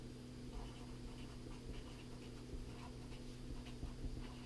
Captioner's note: pen scratching